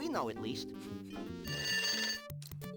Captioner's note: phone rings